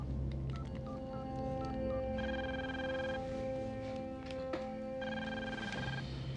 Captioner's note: phone beeps; phone rings